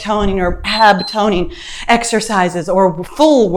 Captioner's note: timer beeps